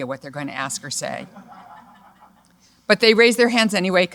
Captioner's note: laughter